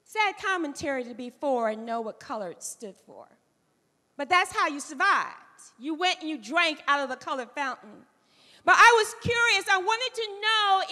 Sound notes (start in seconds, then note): none